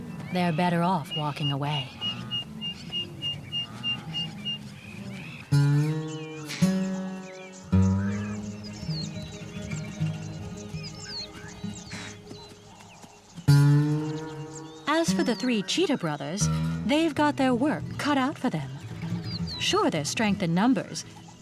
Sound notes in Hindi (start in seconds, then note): 5.6 गिटार म्यूज़िक; 9.1 चिड़िया चहचहाते हैं